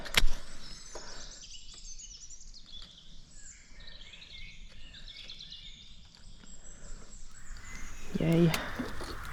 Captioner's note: evening birdsong